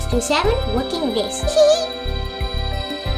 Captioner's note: children giggling